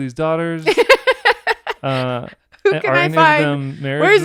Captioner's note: laughing